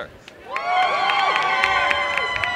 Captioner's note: applause and cheering